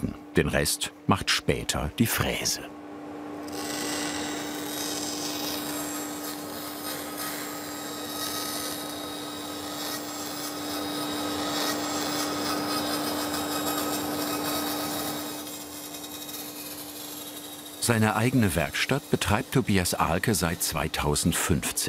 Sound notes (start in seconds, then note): 4.0 machine whirring